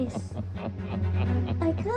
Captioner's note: evil laughter